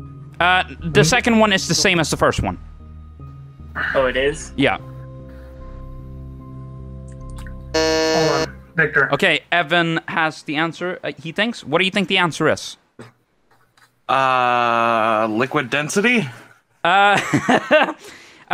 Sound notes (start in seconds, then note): 7.7 buzzes; 16.9 laughing